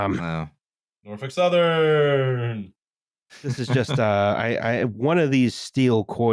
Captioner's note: singsong